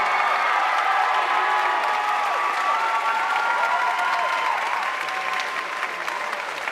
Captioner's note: audience cheering and applauding